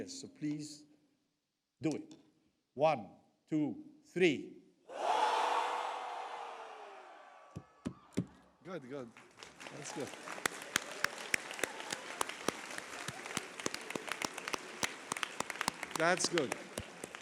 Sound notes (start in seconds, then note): 4.9 audience screams; 9.4 audience claps; 11.3 audience claps